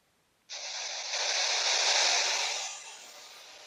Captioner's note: static noise on radio